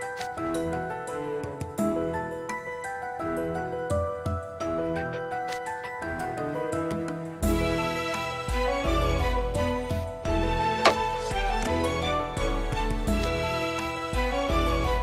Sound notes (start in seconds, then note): 10.8 chop